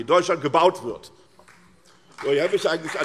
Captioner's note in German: Beifall SPD und DIE LINKE